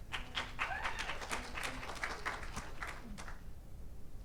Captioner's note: audience applauds